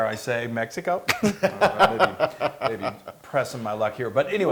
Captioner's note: laugh